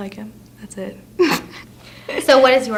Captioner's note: laughs